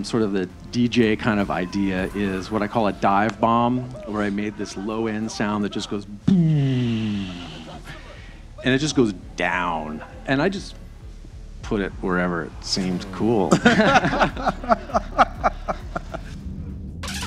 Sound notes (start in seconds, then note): 6.2 makes downward pitch low-end sine wave sound; 12.8 laughing